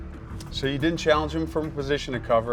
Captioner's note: voiceover